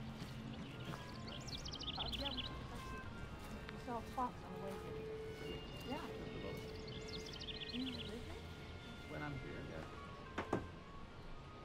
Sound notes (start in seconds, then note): 0.2 footsteps approaching; 1.6 indistinct chatter continues